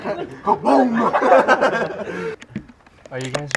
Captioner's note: laughs